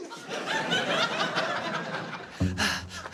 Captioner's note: laughter